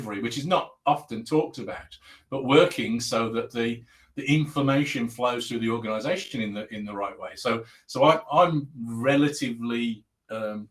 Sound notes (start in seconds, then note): 8.8 abbreviated speech